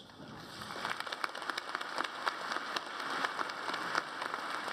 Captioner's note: audience applauds